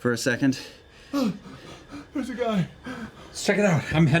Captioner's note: panting